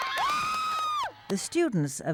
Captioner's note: cheers